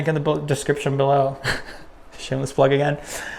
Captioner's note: chuckles